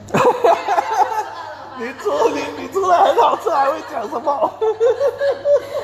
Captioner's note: laugh